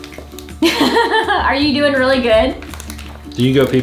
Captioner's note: laughs